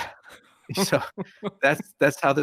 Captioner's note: both laughing